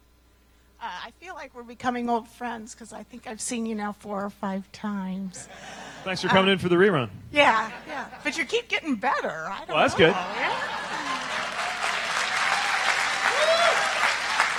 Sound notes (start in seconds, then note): 7.5 laughter